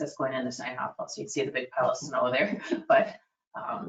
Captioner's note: laughs